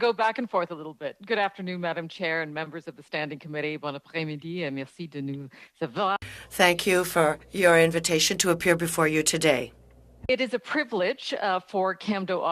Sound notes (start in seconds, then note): 8.5 speaking French